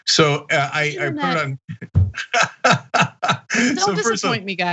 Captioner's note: laugh